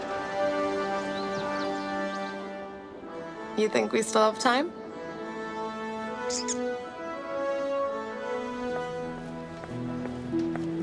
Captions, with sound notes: You think we still have time? [chittering]